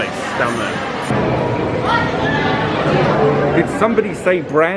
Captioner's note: indistinct chatters